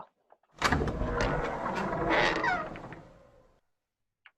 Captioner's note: door creaks